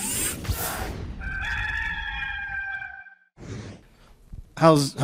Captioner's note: rooster crows